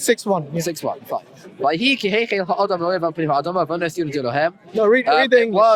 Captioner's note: reads in Hebrew